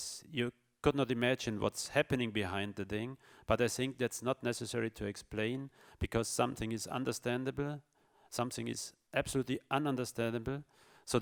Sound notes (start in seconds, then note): none